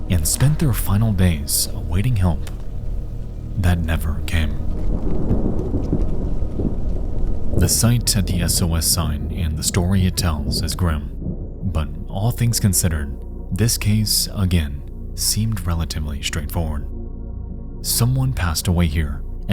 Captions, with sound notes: and spent their final days awaiting help that never came. (thunder rumbles) (mysterious music) The site at the SOS sign and the story it tells is grim. But all things considered, this case, again, seemed relatively straightforward. Someone passed away here